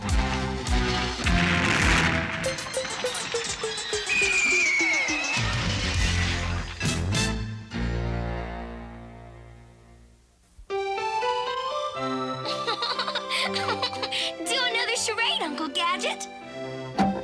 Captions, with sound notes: [PENNY LAUGHING] DO ANOTHER CHARADE, UNCLE GADGET.